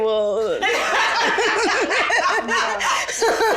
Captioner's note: all laugh